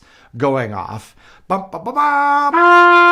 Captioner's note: mimicking trumpet; trumpet playing